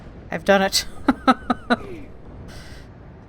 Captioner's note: laughs